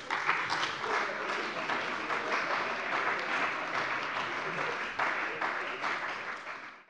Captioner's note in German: Beifall bei dem BÜNDNIS 90/DIE GRÜNEN und der CDU